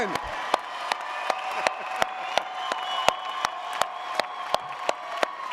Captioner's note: audience applauding